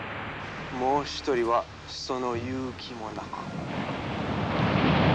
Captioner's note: speaking foreign language; waves crashing